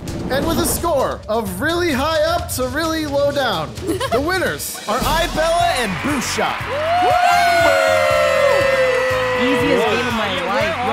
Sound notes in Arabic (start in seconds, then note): 6.8 المشاركين يهتفون